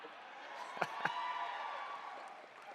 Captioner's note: cheers